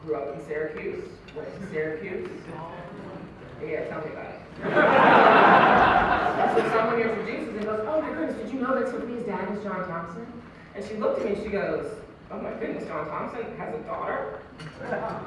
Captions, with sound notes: Grew up in Syracuse, went to Syracuse Yeah, tell me about it. [Laughter] So someone introduces us and goes "Oh my goodness did you know that Tiffany's dad is John Thompson?" And she looked at me and she goes, "Oh my goodness, John Thompson has a daughter?"